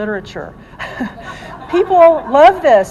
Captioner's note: laughing